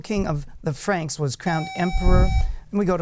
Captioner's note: buzzer